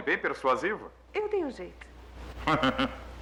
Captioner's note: chuckles